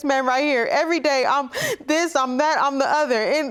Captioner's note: sobbing